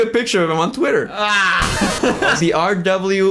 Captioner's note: laughs